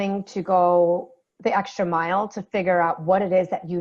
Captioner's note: none